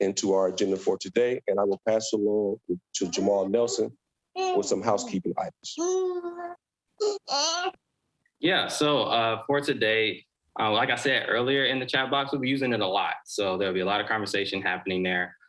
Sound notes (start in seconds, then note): 7.0 child murmurs